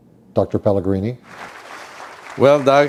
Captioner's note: applause